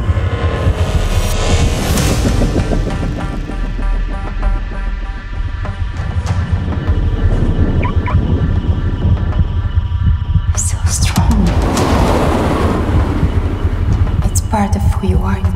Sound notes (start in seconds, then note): 7.2 tense electronic music; 7.7 car alarm beeps